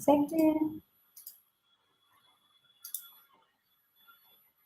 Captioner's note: clicking